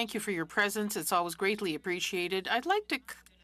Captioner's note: speaking French